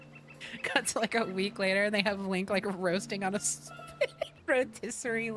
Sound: laughter

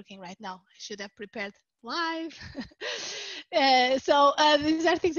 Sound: laughs

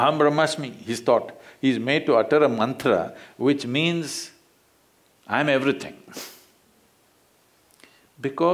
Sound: laughs

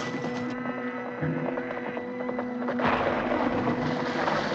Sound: cows Mooing

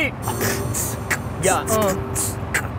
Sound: beatboxing

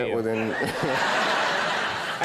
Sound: audience laughing

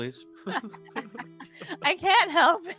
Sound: multiple chuckling

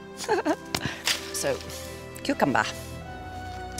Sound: chuckles

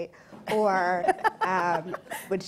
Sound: laughing

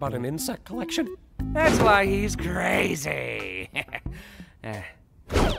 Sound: chuckles

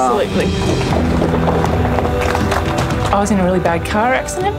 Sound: applause

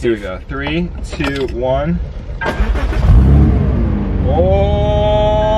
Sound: engine revving

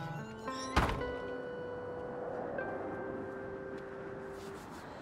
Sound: wind blowing

